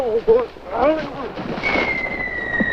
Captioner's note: bombs exploding